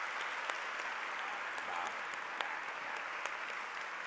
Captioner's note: applause